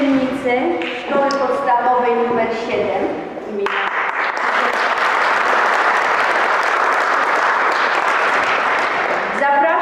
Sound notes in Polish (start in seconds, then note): 3.6 Aplauz